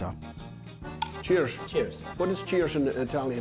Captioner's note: Italian accent